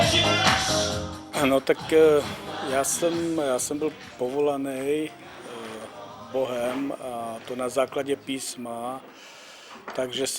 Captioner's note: speaks in own language